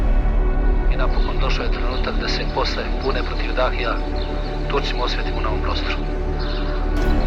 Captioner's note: dramatic music; speaking in foreign language